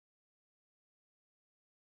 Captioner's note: none